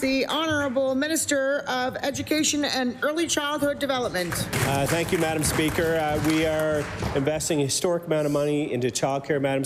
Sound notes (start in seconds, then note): 0.5 applause